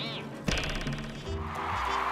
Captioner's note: cheers and applause